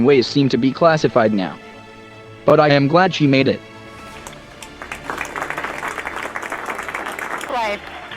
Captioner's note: applause